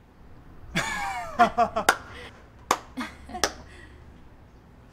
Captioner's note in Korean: 웃음 소리